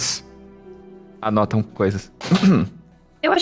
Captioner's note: cough